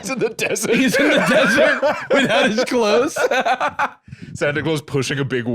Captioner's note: laughing; laughs